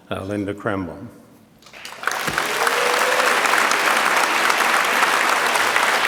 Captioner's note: audience applauds